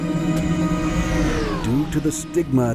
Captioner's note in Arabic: هدير السفينة